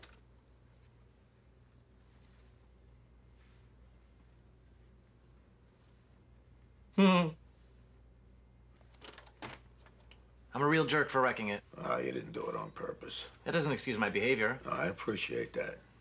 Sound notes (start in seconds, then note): 7.2 laughs